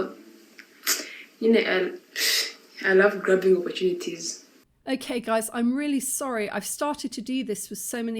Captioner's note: sigh